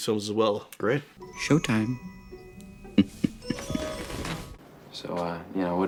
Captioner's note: chuckles